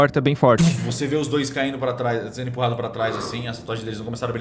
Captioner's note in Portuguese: Pfff